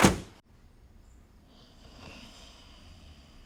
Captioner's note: snoring